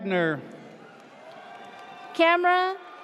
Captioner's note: audience cheers